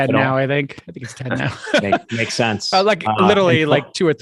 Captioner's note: chuckles